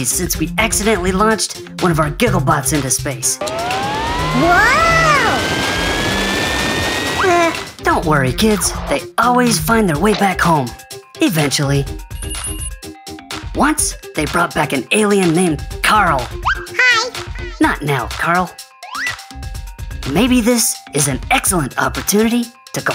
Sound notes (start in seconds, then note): 12.2 Gigglebot rings